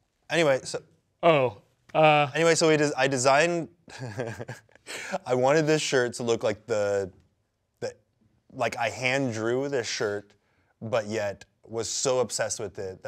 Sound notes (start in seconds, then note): 3.9 laughs